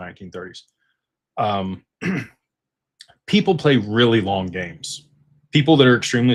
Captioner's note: clears throat